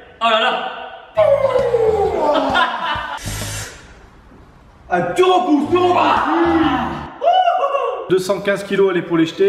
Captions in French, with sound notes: Holala ! Houuuu ha *rire* Tu repousses, tu repousses.. ouiii Hou hou hou 215kg à l'épaulé-jeté